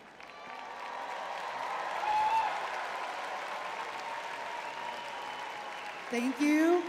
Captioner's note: crowd cheering